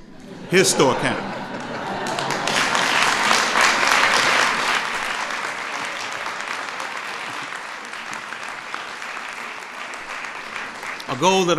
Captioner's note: laughter and applause